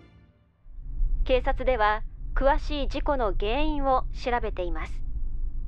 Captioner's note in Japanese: ラジオの声